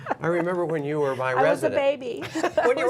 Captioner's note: laughter